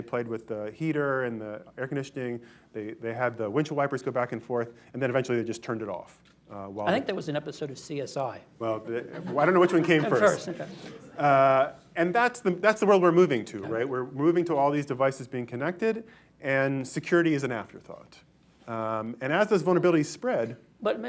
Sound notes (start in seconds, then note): 8.8 laughter